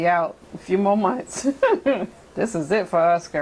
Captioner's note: laughs